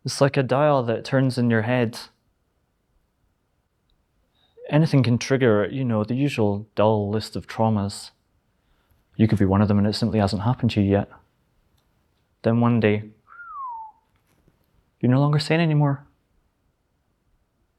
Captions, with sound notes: It's like a dial that turns in your head. Anything can trigger it, you know the usual dull list of traumas. You could be one of them and it simply hasn't happened to you yet. Then one day [whistles] You're no longer sane anymore.